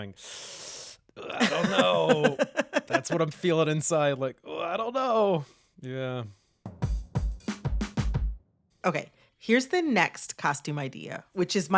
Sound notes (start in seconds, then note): 0.2 inhales through teeth; 1.3 laughter